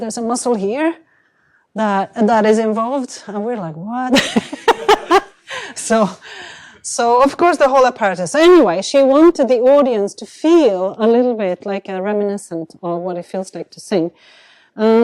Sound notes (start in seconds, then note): 4.1 laughter